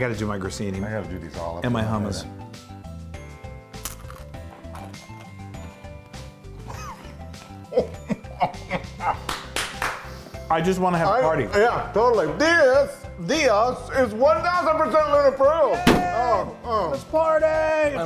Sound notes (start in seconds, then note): 3.8 breadstick cracks; 7.7 laughs; 9.2 he claps